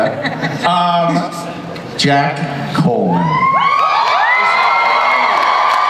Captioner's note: audience cheers